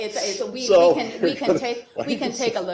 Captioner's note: laughter